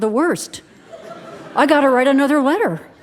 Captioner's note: audience laughing